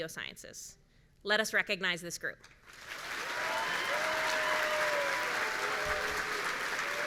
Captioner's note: audience cheering